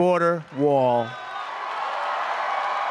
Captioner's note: applause